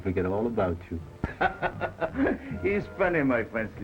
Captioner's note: Pepe laughs